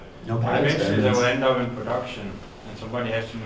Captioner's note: voiceover